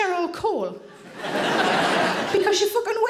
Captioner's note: audience laughing